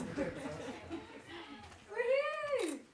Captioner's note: people chattering